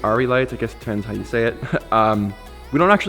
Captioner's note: laughs